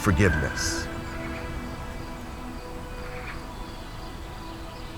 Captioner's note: birds chirping